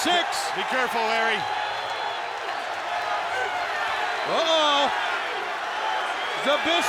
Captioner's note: applause